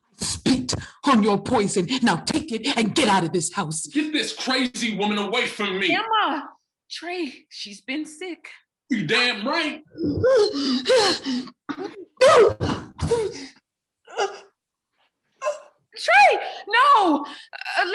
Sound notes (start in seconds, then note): 10.0 heavy breathing; 15.4 cries